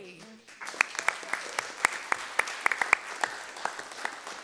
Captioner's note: group applauds